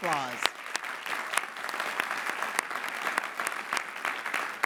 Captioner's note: clapping